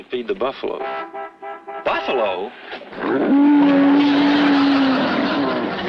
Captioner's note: buffalo bellows; audience laughs